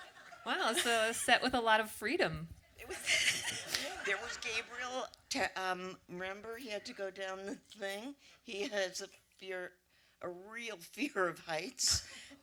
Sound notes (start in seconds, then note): 2.8 laughter